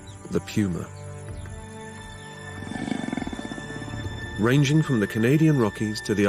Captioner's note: growling